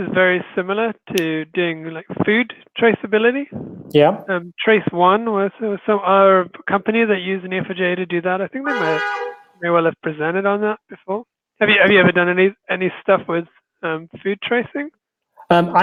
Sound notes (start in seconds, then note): 8.6 car horn